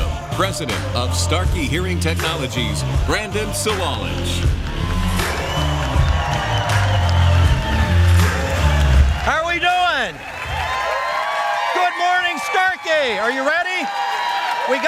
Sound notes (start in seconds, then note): 4.8 cheering and applause; 10.2 cheering